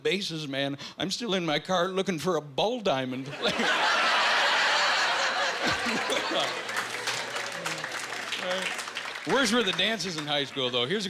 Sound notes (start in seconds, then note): 3.3 laughing